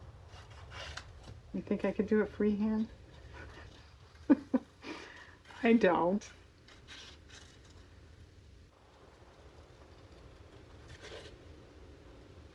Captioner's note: laughs